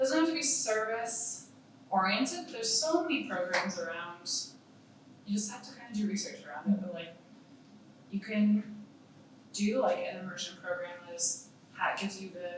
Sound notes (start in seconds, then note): none